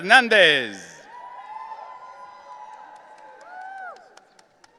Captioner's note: audience cheering